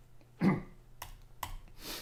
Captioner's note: clears throat